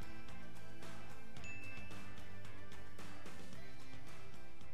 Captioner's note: bell dinging